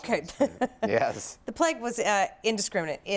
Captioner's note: chuckles